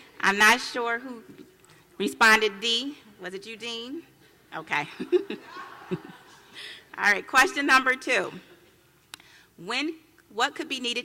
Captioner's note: laughs